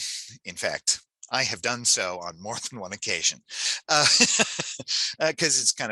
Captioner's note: laughs